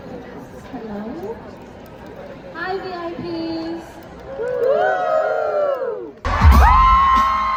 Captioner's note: crowd cheers